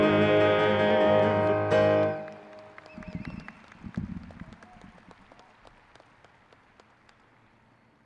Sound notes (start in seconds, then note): 1.8 crowd clapping